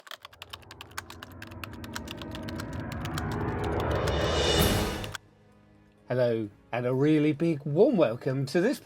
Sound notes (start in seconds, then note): 0.0 typing